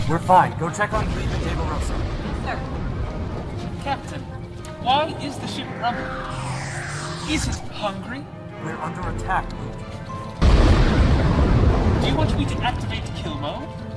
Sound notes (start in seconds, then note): 10.3 loud Crash